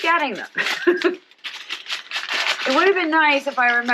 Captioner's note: laughing